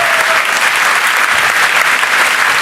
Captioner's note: applause